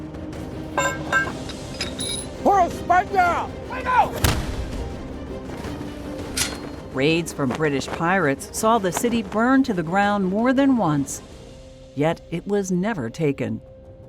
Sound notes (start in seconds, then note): 0.8 cannon clanks; 4.2 cannon fire